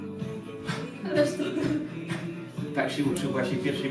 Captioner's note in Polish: śmiech